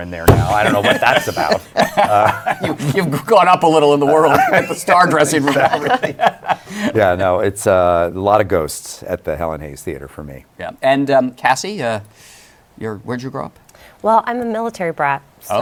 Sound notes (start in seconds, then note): 0.5 laughs